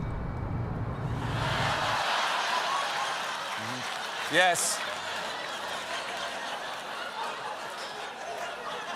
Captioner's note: laughter